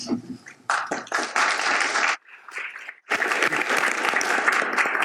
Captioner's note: audience applauds